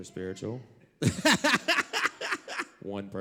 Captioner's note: laugh